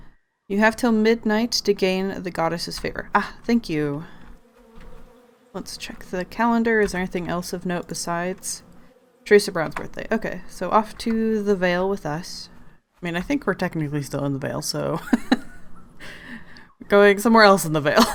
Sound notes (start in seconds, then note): 15.0 laughs